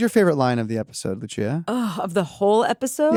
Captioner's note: sighs